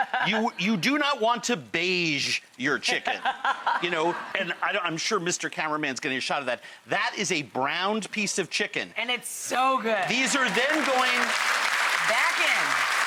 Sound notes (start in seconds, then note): 2.9 laughs; 10.0 audience clapss